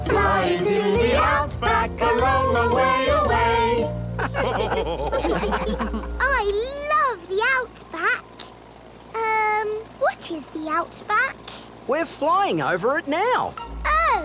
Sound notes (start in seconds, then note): 4.2 all laugh